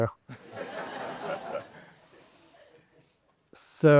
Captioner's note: students laughing